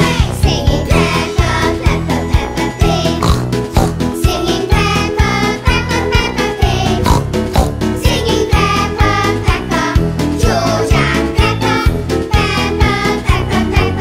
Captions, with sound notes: Singing, Peppa Peppa, Peppa Pig. [snort snort] Singing Peppa, Peppa, Peppa Pig. [snort snort] Singing Peppa, Peppa, George and Peppa. Peppa, Peppa, Peppa Pig.